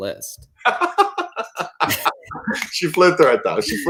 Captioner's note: laughter